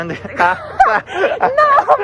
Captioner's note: laughs